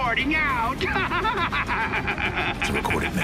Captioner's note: cackles